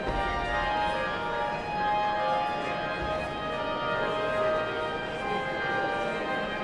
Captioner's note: somber organ music continues; audience chattering continues